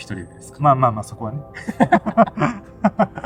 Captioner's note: laughs